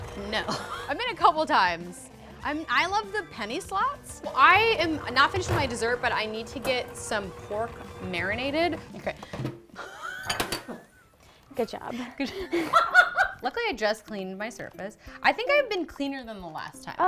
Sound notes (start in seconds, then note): 9.9 laughing; 11.7 laughs